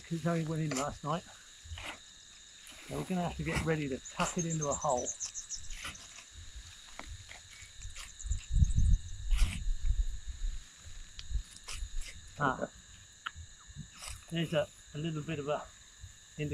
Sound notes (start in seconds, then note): 7.4 insects and birds chirping; 7.4 tools scraping